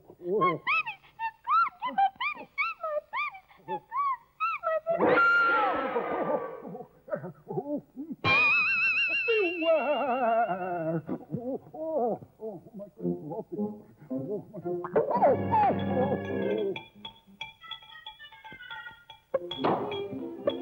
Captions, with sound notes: My babies! They're gone! Not my babies! (Scream)